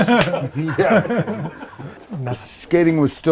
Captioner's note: all laughing